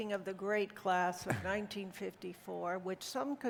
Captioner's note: chuckles